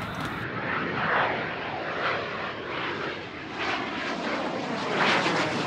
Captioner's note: airline engine roaring